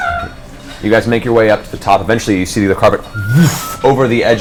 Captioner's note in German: zisch